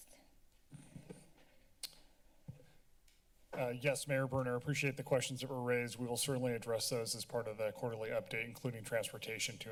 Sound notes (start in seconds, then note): 1.8 tongue clicking; 2.2 mic thump